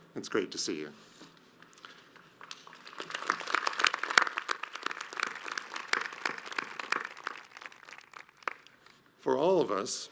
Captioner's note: audience applauds